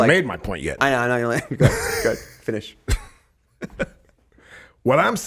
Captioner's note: Justin laughing